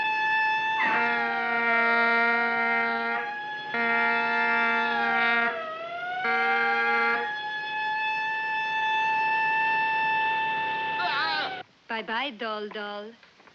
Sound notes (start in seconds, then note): 0.6 horn blaring; 10.2 screaming